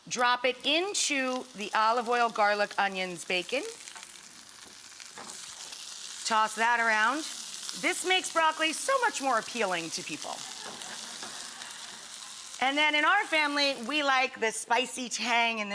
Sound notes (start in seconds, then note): 3.7 pan sizzling; 10.4 audience laughs